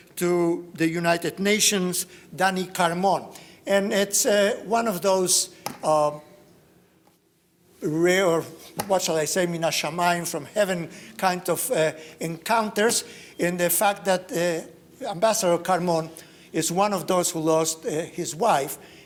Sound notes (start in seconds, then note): 9.4 speaks in foreign language